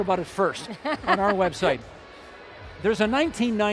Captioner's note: laughing